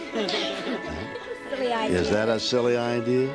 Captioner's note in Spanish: riendo